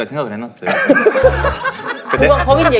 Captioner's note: haha